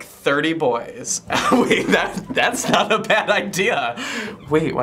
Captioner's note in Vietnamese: cười